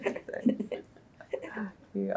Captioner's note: laughter